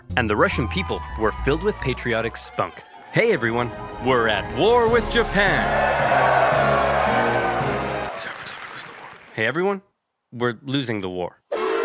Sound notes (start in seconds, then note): 5.8 crowd cheering loudly; 8.0 whispering quietly; 11.5 crowd booing loudly